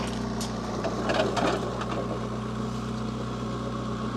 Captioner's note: log thudding